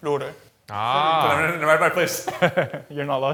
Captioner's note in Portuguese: fala em coreano; risos